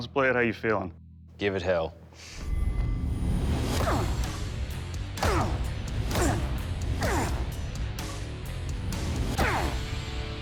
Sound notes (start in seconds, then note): 2.2 grunting; 2.2 tense music playing; 4.4 grunting continues